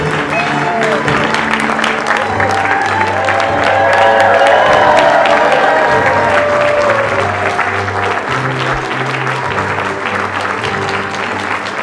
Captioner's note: applause